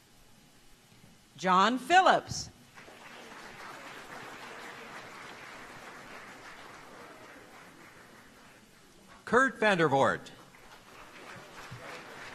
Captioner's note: applause